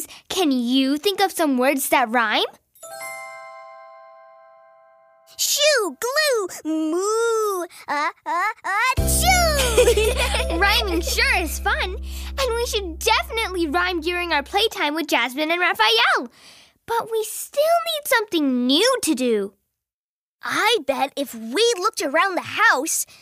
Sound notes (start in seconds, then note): 9.3 laughs